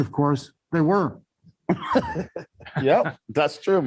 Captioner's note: laughter